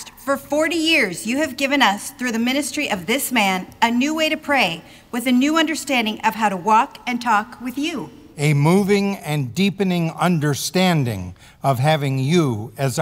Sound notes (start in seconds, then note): none